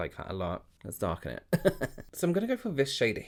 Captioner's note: chuckles softly